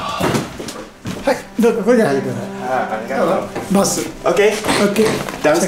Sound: speaking in Japanese

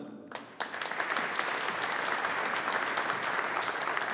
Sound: audience applauding

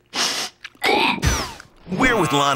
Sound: gagging

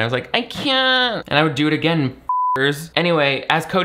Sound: beep

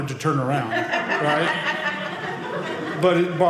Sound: audience laughing

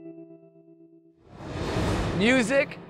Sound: graphics whooshing

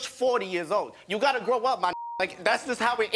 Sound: beep

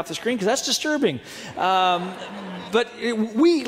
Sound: audience laughing

